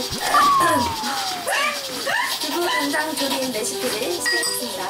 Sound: burp

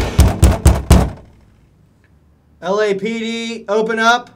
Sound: pounding

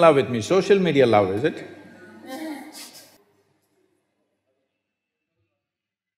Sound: participants Laugh

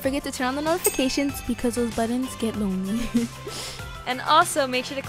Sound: laughs

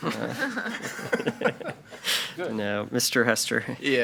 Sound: group laughing

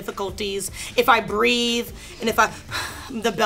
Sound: sighs

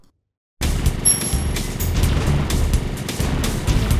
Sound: game sounds resume

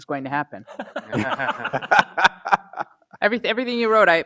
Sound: laugh

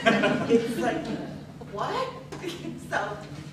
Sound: laughter

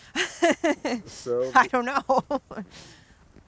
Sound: laughs

